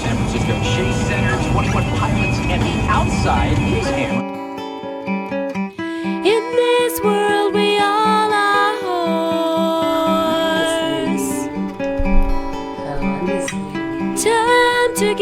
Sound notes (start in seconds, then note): 0.0 radio playing in the back